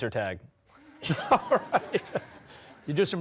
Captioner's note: laughing